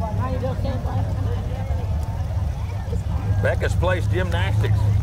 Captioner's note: people chatter; revving continues